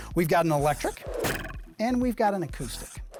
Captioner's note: pencil scratching; arrow twanging